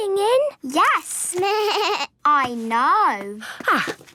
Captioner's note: bleating